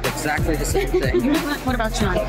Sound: laughter

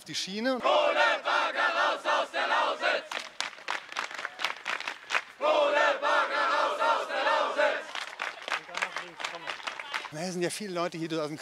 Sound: hand clapping

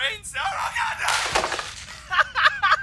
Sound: bang

